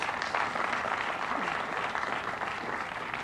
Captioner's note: applause